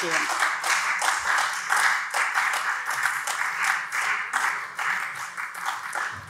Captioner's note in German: Beifall SPD